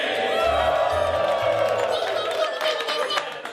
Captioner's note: cheering